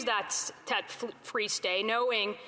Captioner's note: none